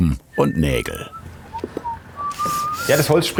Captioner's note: whistling